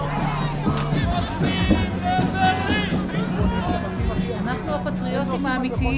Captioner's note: speaking foreign language